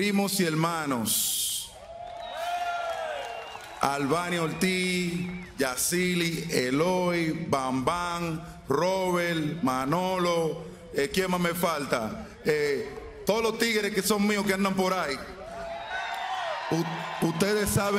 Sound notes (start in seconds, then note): 4.1 speaking spanish